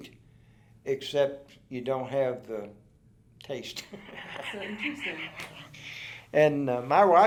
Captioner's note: laughs